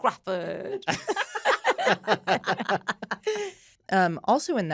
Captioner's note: all laughing